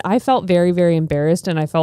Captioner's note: none